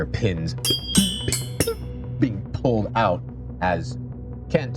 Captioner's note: pins clinking loose